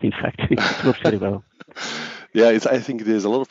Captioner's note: laughs